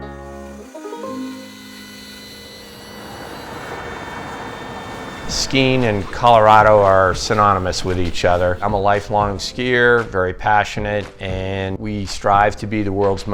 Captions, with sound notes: (machinery whirring) Skiing and Colorado are synonymous with each other. I'm a lifelong skier, very passionate, and we strive to be the world's